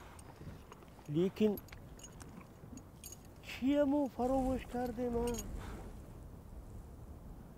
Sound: in Tajik

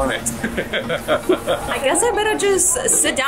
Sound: laughing

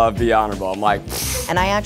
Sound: raspberrying

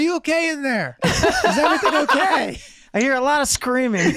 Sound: everyone laughing

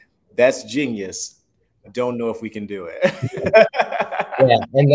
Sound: laughs

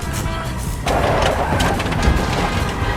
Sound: tires squeal

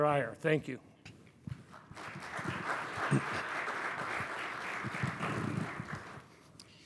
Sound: applause

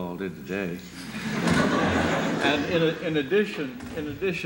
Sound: laughter

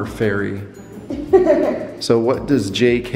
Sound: laughing

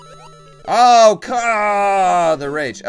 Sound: death audio

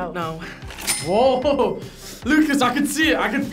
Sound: laughs

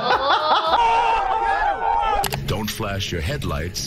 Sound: laughing; crowd yelling

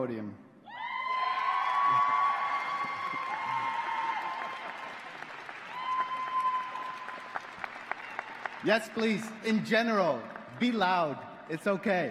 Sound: cheers and Applause

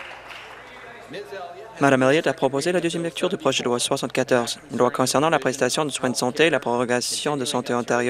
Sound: applause

